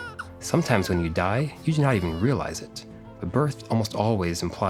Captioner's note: baby crying